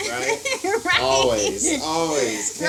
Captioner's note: laughs